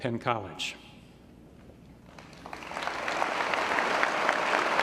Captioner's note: applause